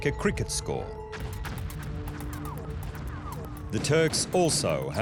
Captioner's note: gunshots